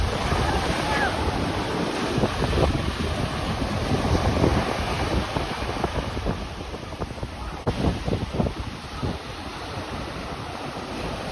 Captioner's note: ocean waves